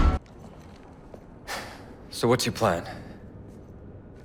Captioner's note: sigh